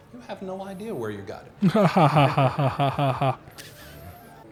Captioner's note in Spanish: Se ríe sarcásticamente